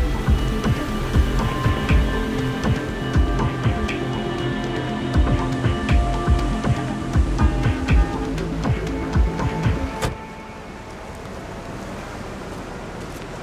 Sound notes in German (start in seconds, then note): 9.7 Musik endet, leise Verkehrsgeräusche